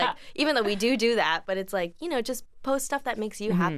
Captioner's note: laughs